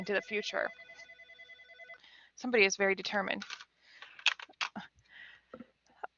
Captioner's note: phone ringing